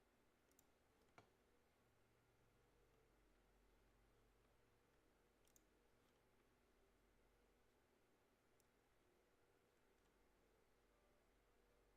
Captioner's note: mouse and keyboard clicking